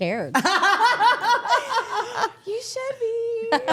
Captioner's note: all laughing